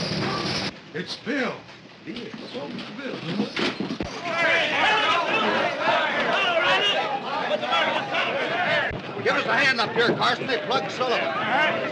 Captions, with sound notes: It's Bill! [chattering] [clamoring] Give us a hand up here, Carson. They plugged Sullivan.